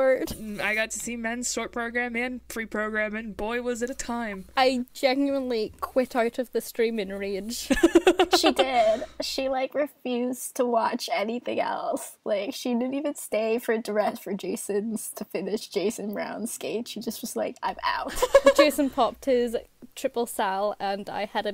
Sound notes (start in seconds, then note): 7.7 hosts laugh